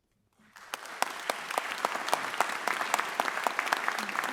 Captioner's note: audience applauds